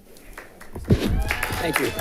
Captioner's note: audience applauding